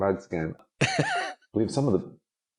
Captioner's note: laughing